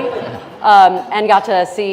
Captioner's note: audience laughing